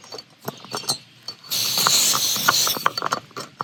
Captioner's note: stove hisses briefly